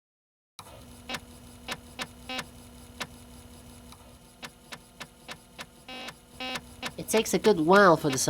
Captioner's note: disk drive crunching data